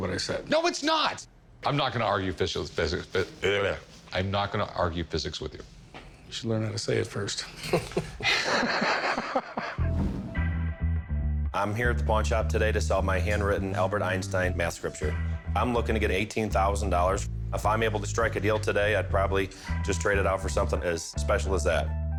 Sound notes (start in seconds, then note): 7.6 laughter